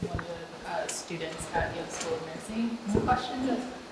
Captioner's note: speaking faintly